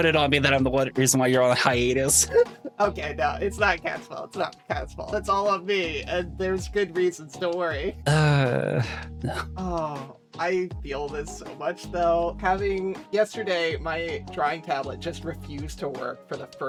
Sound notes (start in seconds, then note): 8.0 sighs